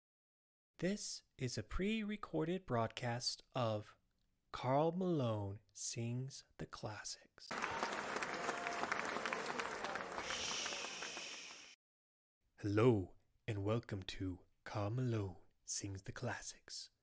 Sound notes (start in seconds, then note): 7.5 audience Applause; 10.1 hushing